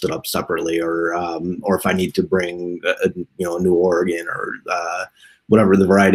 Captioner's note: murmurs